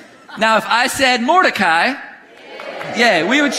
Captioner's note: congregation laughing; congregation cheering